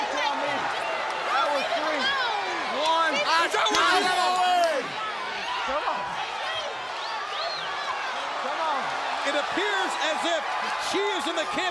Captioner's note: crowd chatter